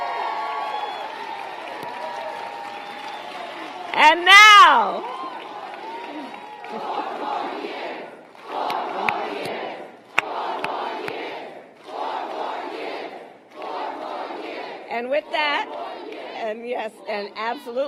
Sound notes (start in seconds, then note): 13.5 applause